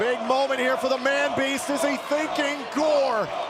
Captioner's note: crowd cheering